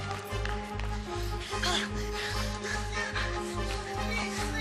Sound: panting

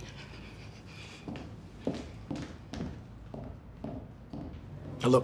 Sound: feet thudding

